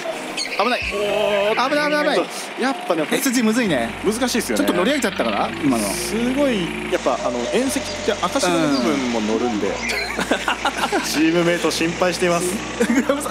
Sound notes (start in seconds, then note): 10.3 laughs